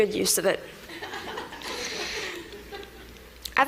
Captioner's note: laughter